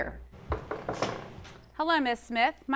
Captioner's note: light knocking